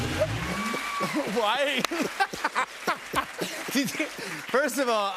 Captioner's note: laughing